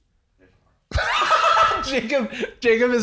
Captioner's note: laughs